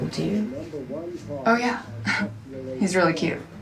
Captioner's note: chuckles